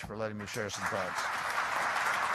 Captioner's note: applause